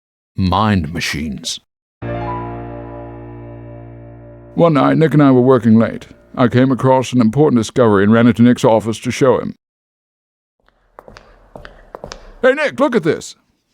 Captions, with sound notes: Mind Machines. One night Nick and I were working late. I came across an important discovery and ran into Nick's office to show him. [footsteps] Hey Nick Look at this!